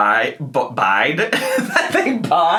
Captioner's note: laughs